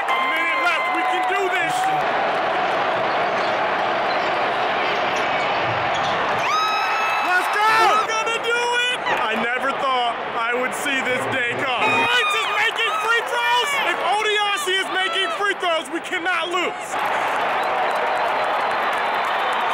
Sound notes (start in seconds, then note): 2.1 crowd noise; 6.2 crowd cheers; 17.0 crowd cheers